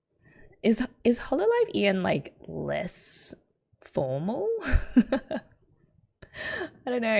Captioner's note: laughs